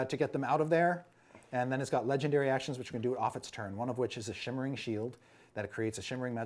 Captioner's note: none